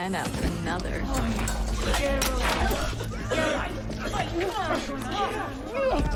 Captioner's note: grunting & coughing